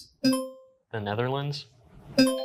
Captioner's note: buzzer rings